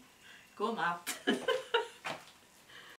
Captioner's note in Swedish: skratt